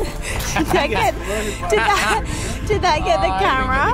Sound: both laugh

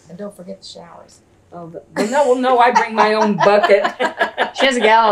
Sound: laughter

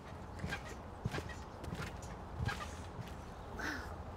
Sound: squeaking

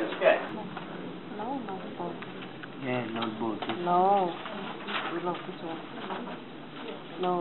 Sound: quiet murmuring

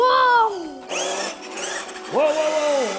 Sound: car driving

